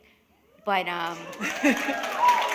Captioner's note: applause